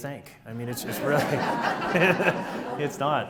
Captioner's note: audience laughs